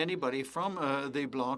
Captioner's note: speaking French